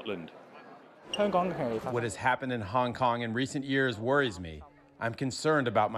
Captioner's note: through translator